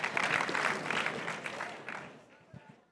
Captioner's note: crowd cheering and applauding